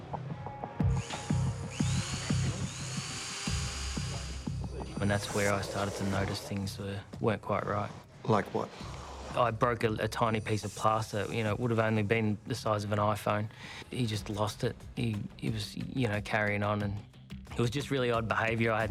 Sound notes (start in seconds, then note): 0.1 dramatic music; 0.8 drill motor roaring; 3.2 dramatic music